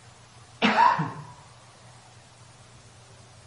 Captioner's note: coughing